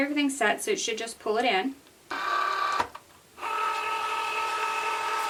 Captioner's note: machine whirring